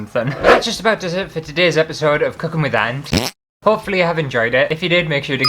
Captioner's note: fart!